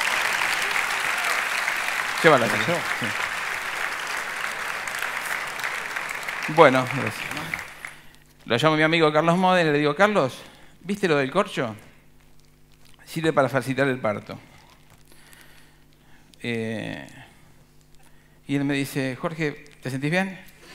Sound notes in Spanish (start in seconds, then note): 2.4 Aplausos